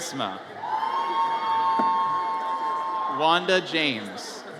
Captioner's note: audience cheers